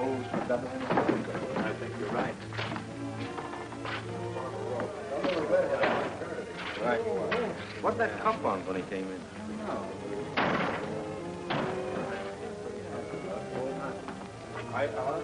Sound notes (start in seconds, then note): 5.1 hospital staff chatters